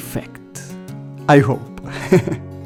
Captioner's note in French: rires